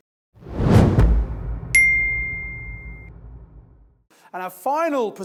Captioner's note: screen whooshes; bell rings